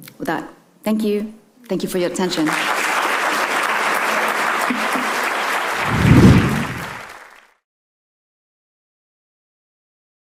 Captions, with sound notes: With that, thank you, thank you for your attention. (attendees applaud) (screen whooshing)